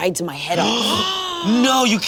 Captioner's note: all gasping